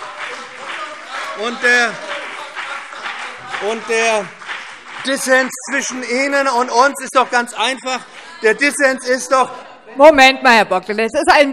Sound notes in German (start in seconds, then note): 0.0 Beifall BÜNDNIS 90/DIE GRÜNEN und CDU; 8.3 Lebhafte Zurufe